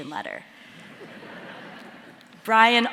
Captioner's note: audience laughing